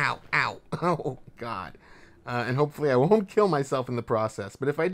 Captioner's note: laughs